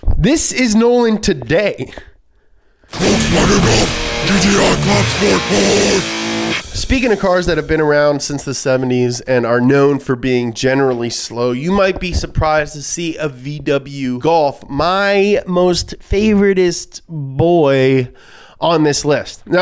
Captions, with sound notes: This is Nolan today. - [Demonic Voice] Volkswagen Golf GTI Clubsport S! - Speaking of cars that have been around since the 70s and are known for being generally slow, you might be surprised to see a VW Golf, my most favoritest is boy on this list.